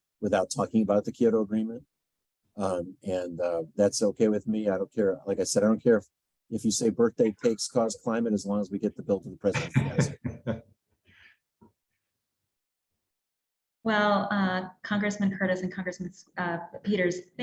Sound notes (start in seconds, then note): 9.4 laughs